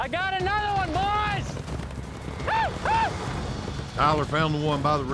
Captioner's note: yells